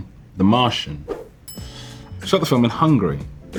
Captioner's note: slide swipe, bell ding